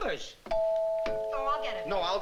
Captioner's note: doorbell rings